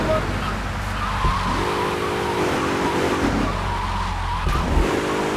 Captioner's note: engine revving